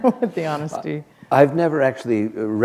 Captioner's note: chuckle